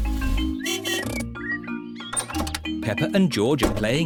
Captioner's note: honking